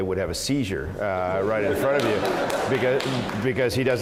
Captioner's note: laugh